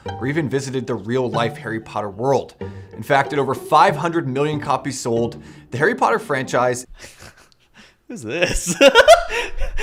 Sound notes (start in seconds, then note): 6.9 chuckles